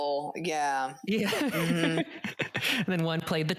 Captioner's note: laughs